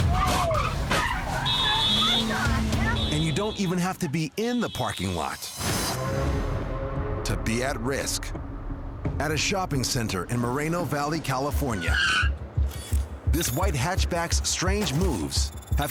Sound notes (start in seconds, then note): 1.4 car horn blaring